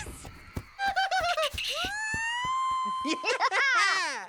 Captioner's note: screaming; laughing